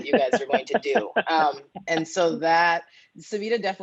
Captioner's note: laughter